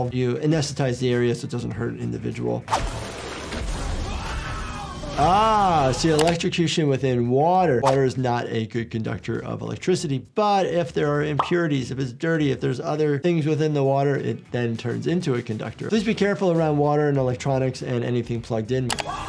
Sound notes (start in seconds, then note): 2.7 electricity buzzing; 3.8 character screaming